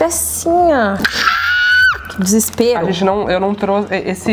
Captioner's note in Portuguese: grita